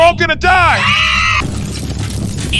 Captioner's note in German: Alle schreien